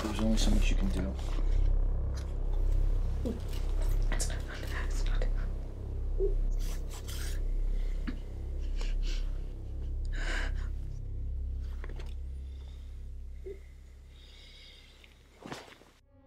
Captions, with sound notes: But there's only so much you can do. It's not... too late... (labored breathing)